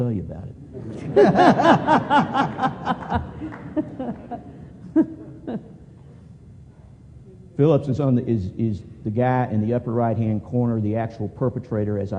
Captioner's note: laughter